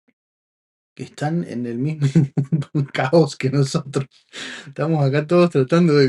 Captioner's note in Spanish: risas